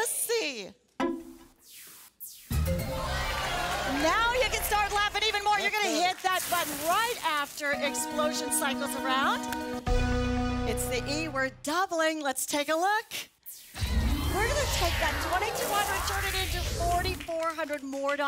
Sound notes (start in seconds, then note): 2.9 applause